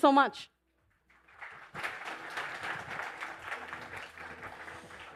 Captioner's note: applause